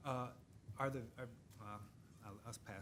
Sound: stammers

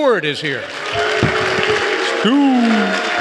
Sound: applause

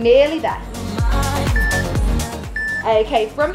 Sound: timer beeping

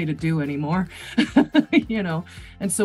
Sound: laughs

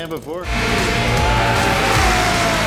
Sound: screaming

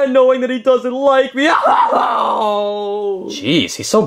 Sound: sobbing

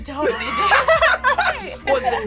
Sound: both laugh

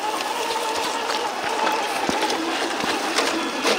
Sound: tires rumbling

